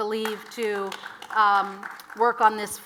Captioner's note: audience applauds